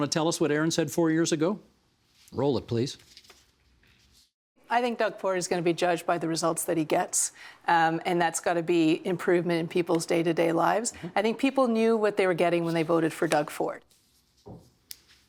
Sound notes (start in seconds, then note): none